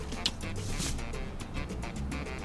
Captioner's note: money slides off of counter